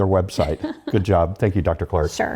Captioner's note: laugh